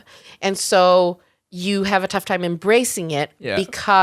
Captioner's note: none